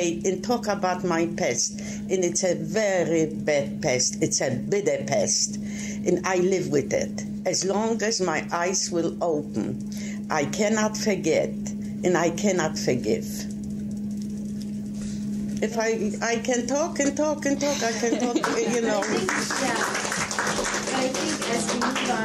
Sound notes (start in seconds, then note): 18.9 applauding